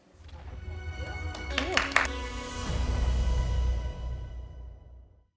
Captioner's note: applause